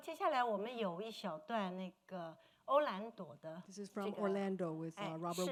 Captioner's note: speaking Mandarin